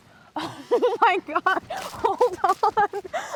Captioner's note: Claire laughing